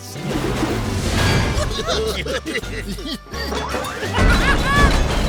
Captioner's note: chuckling